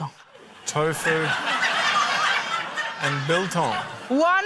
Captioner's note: laughter